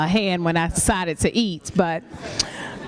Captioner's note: laughter